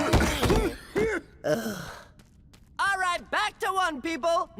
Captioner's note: mummies groaning; mummy coughs